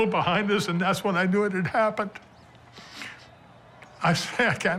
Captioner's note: voice breaking